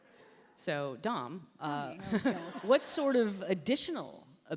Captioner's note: laughter